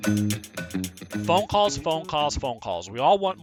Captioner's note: upbeat music; voiceover